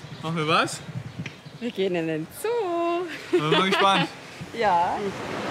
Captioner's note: laughs